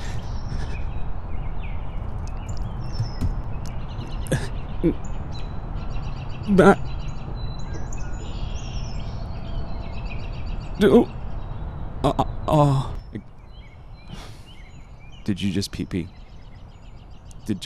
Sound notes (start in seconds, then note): 0.0 TYPING and SIGHING; 4.2 sobbing